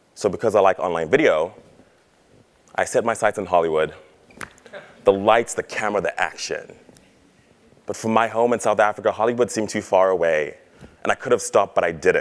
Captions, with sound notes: So because I like online video, I set my sights on Hollywood. >> [LAUGH] >> The lights, the camera, the action. But from my home in South Africa, Hollywood seemed too far away. And I could have stopped, but I didn't.